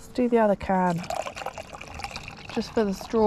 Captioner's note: glug glug glug